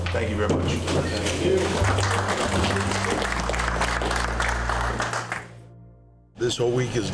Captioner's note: applause